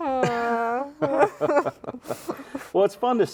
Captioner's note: laughing